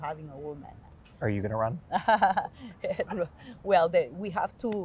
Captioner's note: Maria chuckling